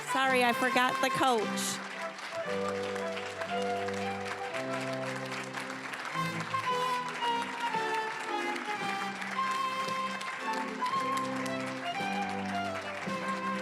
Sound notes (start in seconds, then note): 2.6 applause; 9.7 orchestral music